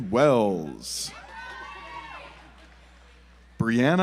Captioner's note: audience applauds